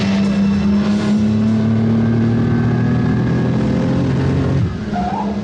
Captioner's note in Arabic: هدير المحركات